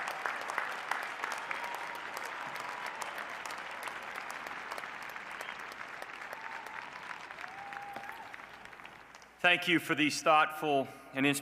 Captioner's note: cheers and applause